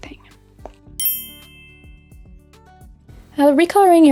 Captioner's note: bell chiming